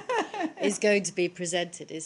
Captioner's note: laughter